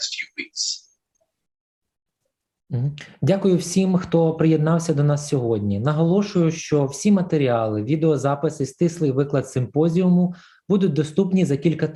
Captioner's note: foreign Language